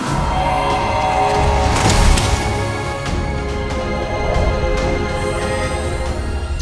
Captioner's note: dramatic music; robotic sounds